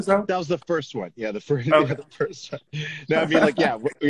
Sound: laughs

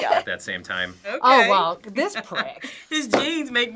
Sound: laughs

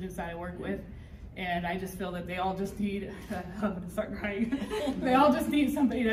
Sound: people laughing

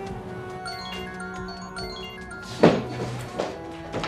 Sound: mobile ringing

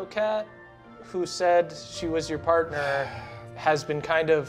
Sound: sighing

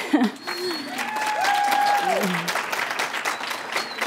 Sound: applause

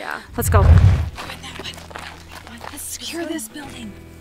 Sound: whispering

